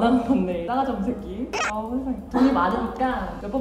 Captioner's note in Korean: 앜ㅋㅋㅋㅋㅋㅋㅋ